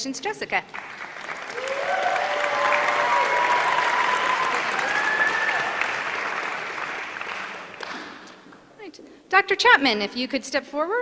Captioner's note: applause